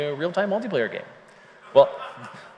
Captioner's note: laughter